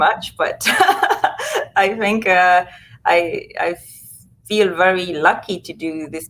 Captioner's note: laughs